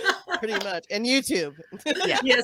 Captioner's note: lauging